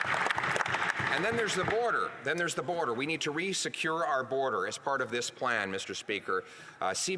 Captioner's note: applause